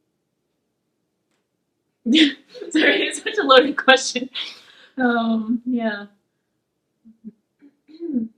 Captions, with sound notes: (laughs) Sorry, it's such a loaded question, yeah.